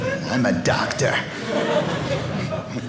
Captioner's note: audience laughing